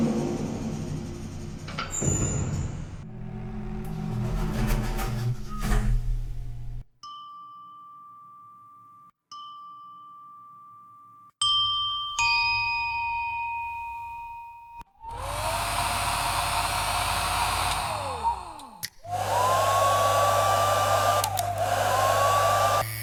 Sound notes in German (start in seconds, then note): 0.0 Aufzugbetriebsgeräusch; 8.0 Aufzug-Ankunftston; 19.6 Haartrocknergeräusch